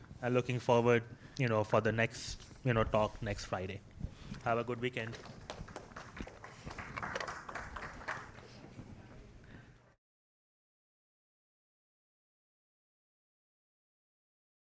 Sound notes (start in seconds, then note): 5.0 applause